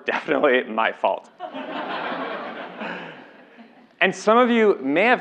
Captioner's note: laugh